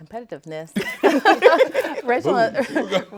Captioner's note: all laughing